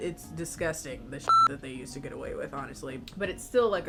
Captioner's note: beep